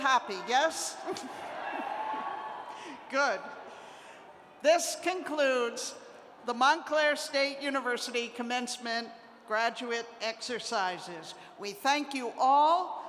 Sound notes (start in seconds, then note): 3.1 cheers